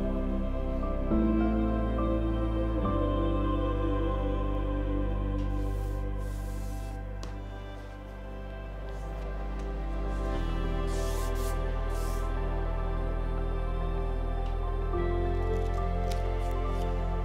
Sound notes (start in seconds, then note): 5.6 paper scratching; 7.2 gentle music continues; 10.8 paper scratching; 12.7 gentle music continues